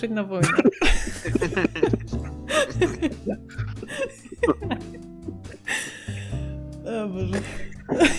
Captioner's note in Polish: śmiech; śmiech